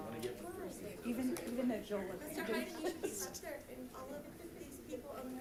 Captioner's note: background chatter